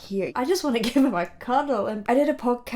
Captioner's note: chuckles